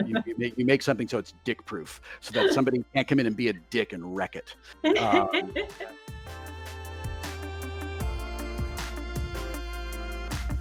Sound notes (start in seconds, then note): 4.8 laughs; 7.1 percussive synth music